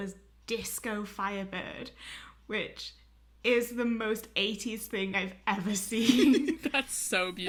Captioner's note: hosts laugh